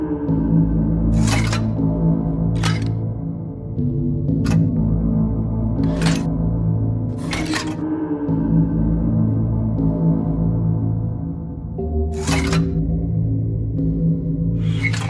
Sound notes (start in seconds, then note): none